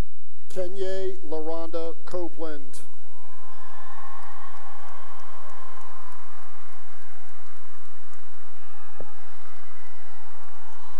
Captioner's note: cheering and applause